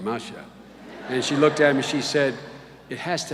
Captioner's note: laughter